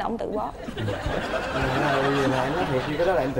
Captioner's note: laughing